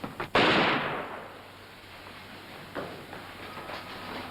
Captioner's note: gunfire pops